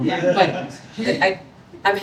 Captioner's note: audience laughs